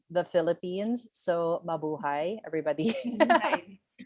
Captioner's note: laughs